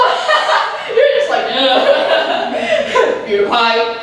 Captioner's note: laughs